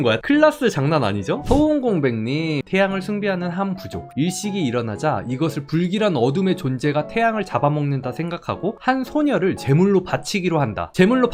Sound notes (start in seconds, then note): 4.1 voiceover